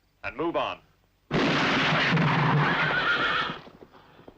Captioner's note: gun fires